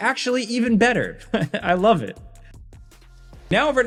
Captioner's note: laughing